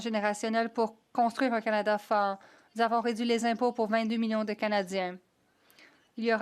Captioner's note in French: voix de l'interprète